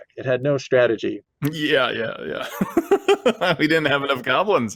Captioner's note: laughs